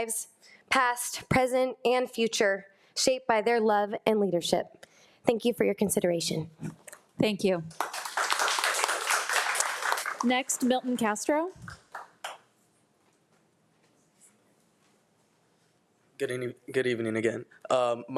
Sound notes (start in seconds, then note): 7.7 audience applauding